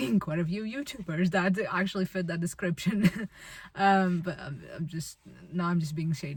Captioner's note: chuckles